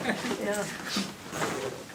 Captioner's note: audience laughs